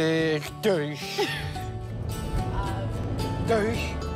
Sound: laughs

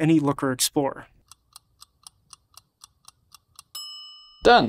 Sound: clock ticking

